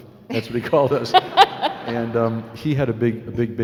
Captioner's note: laughing